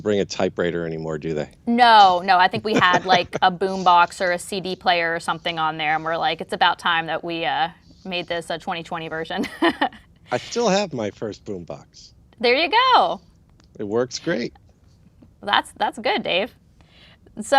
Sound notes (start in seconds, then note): 2.4 laughs; 9.8 laughs